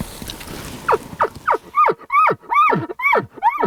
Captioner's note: cow mew